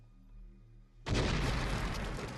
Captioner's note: explosions